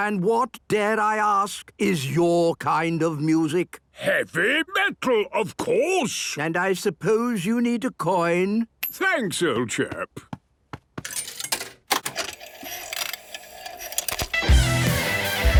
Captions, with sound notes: - And what, dare I ask, is your kind of music? - Heavy Metal, of course! - And I suppose you need a coin? - Thanks, old chap! (clicks, whirring) - (heavy metal music plays)